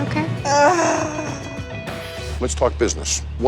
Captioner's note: groans dramatically